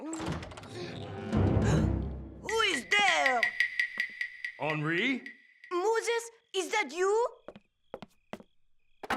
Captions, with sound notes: [DOOR OPENS] [GASPS] WHO IS THERE? HENRI? MOSES, IS THAT YOU?